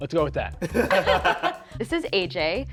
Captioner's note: all laughing